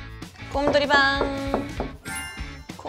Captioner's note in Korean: 똑똑똑